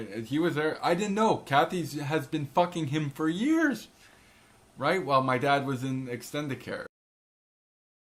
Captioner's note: none